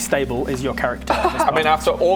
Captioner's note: crazed laugh